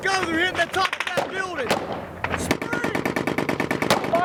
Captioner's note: gunfire